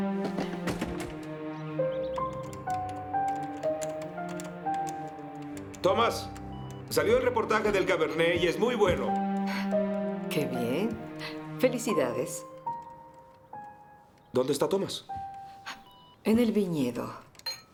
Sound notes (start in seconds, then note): 2.1 typing